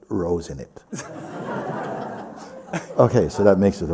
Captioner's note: laughter